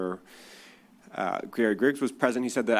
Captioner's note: none